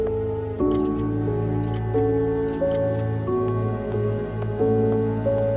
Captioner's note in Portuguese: relógios batendo